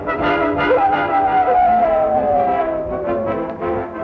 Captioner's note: howling